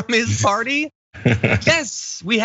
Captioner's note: laugh